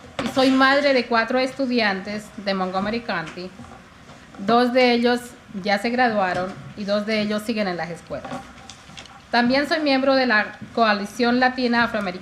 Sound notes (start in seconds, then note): 1.5 speaking in spanish